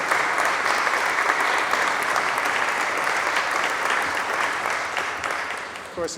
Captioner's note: applause